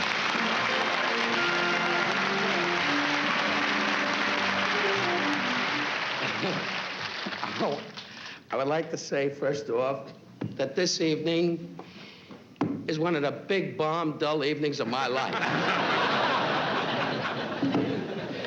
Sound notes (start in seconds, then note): 15.2 laughter